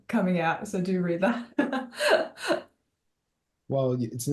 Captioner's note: laughs